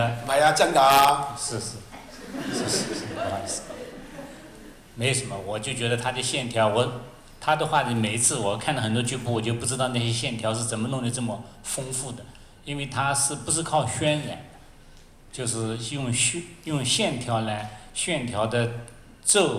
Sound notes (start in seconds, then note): 0.6 Cantonese; 1.9 laughter; 2.0 Mandarin